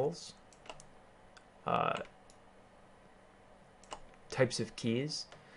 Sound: keyboarding

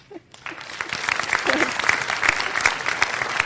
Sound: chuckles; applause

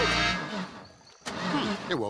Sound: engine fails

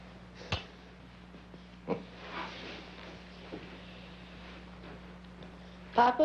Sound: Roy's Father chuckling

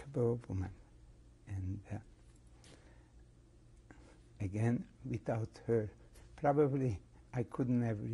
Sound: pauses for 3 seconds

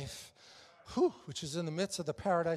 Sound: exhales rapidly

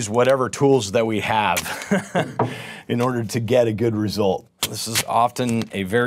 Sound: laughter

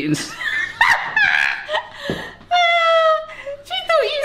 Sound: everyone laughing

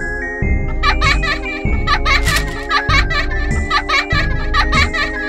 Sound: child Laughing

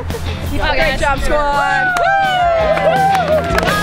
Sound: voiceover; cheering and clapping

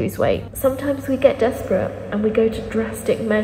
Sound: echoing

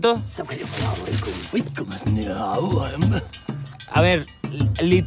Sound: foreign language

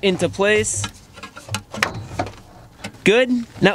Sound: starter clattering

